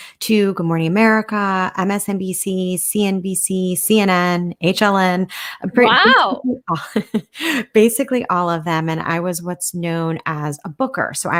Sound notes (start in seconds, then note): 5.7 laughing